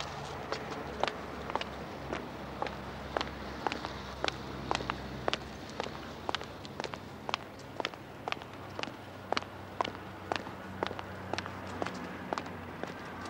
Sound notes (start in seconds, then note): none